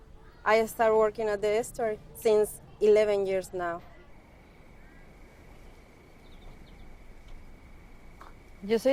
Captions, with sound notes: I start working at the estuary since 11 years now. [insects chirping]